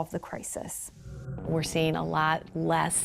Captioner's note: screen whooshing